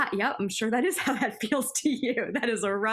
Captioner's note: laughter